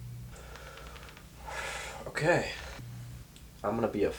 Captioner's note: breathes